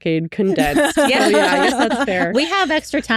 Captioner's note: laughing